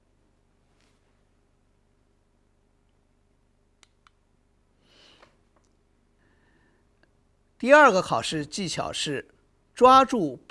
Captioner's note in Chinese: 空白_音频